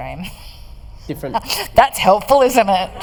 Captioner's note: laughter